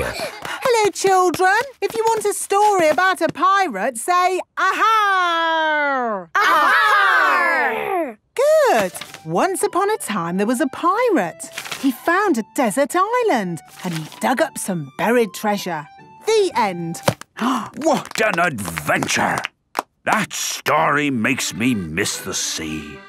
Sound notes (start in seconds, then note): 6.4 all shouting; 17.6 applause